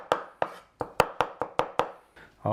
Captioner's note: none